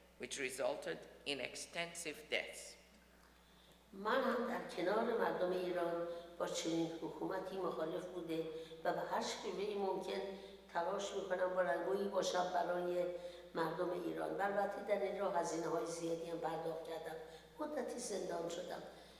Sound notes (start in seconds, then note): 4.6 speaks in foreign language